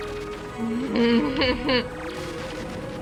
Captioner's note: nervous laugh